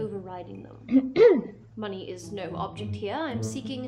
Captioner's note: clears throat